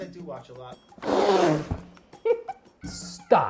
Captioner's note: laughing